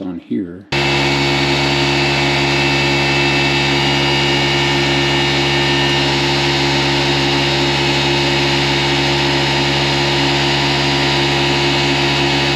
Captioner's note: air pump noise